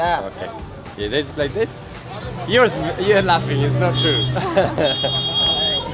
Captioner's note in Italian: Inglese